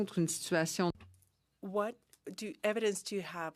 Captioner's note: speaking French